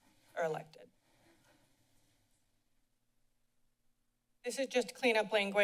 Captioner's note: silence